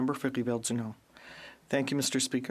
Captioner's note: speaking FRENCH